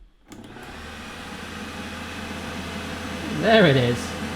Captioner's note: whirring